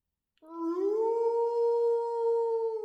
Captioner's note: wolf howling